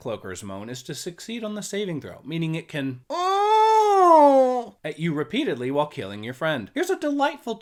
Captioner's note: moan